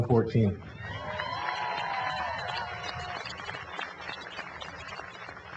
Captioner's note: cheering and applause